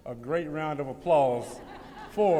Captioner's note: laughter